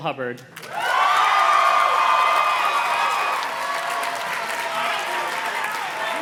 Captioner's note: audience cheers and claps